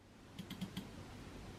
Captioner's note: mouse click